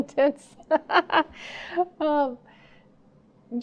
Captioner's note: laughing